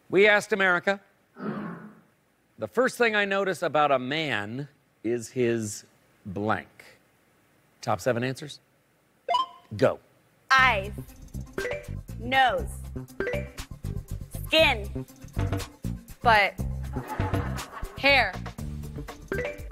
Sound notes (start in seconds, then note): 13.7 bell chimes; 16.6 bass notes; 16.9 laughter